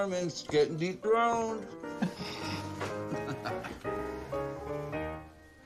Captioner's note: chuckling